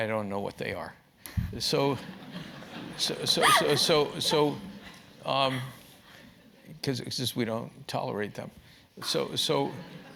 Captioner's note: laugh